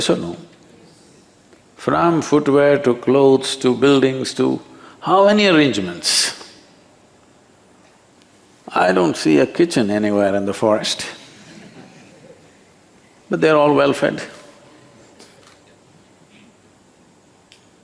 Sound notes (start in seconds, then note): 11.2 few laugh; 14.5 laughs